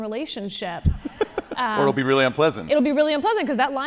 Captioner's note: laughs